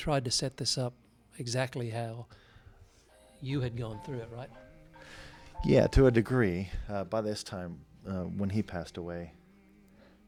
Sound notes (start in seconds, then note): 2.4 humming continues